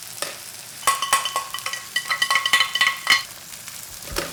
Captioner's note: spoon rattling